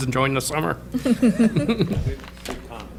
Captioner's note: laughter